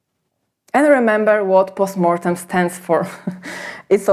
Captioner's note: chuckles